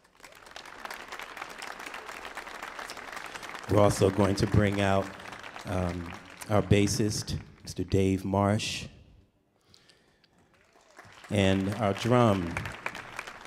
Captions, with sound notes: [audience applauding] We're also going to bring out our bassist, Mr. Dave Marsh, [audience applauding] and our drum,